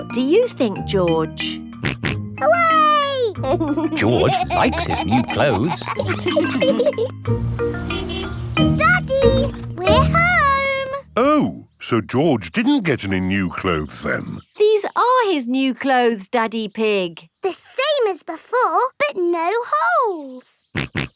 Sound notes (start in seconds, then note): 3.4 snorts and laughs; 7.3 horn honks